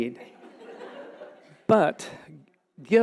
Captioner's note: audience laughing